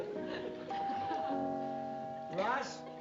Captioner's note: doorbell